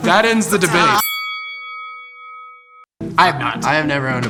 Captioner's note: bell chimes